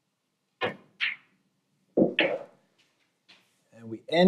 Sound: balls clanging

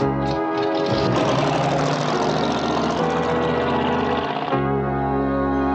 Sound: engine starts, drives off

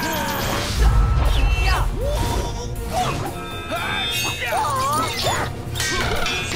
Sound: grunting; clanking

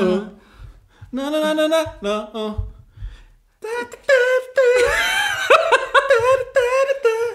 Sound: laughs

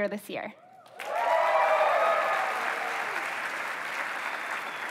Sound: applause

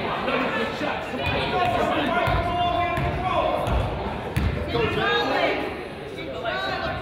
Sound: coach yells

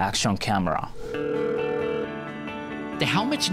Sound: phone ringing

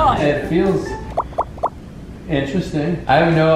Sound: dripping

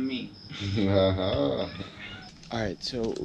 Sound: laughs

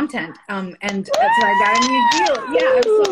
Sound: cheering

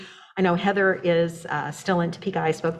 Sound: mutters

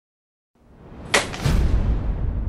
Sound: bangs

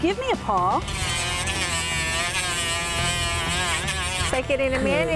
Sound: dremel hums

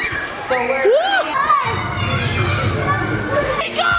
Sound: kids shouting

